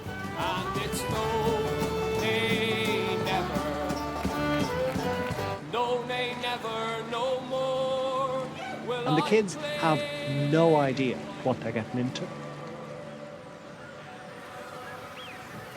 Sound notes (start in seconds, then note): 9.2 voice-over